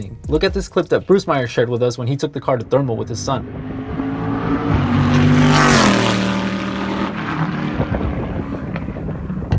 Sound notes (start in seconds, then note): 2.4 engine revving